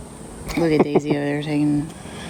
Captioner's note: laughing